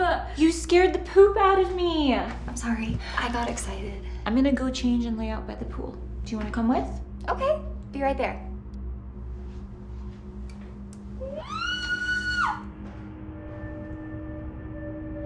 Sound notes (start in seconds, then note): 11.2 excited screaming; 13.2 ominous music